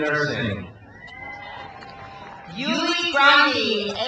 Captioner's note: crowd cheers